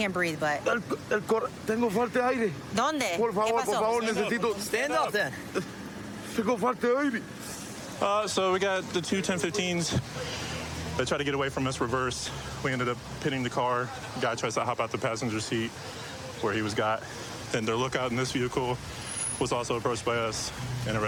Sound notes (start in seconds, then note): 1.4 speaking spanish; 5.9 speaking spanish